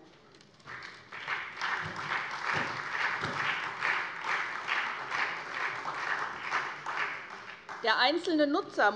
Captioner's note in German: Beifall SPD